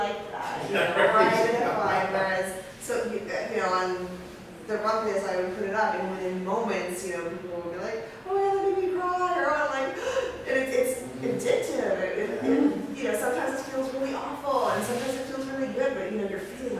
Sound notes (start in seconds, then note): 10.4 gasps